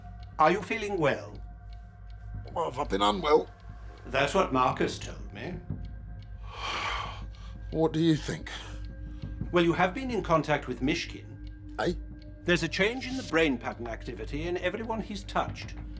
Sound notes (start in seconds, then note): 6.4 sighs